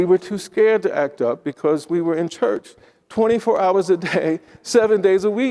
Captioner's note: chuckles